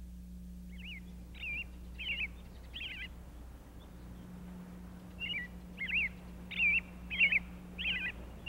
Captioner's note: nature sounds